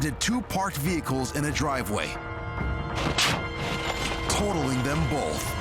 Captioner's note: car bangs